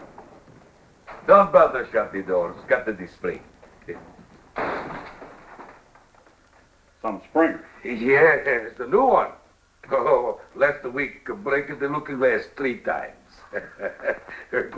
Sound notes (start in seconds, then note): 3.8 door slams; 13.3 chuckles; 14.6 spanish